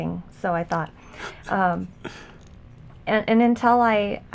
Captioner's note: laughs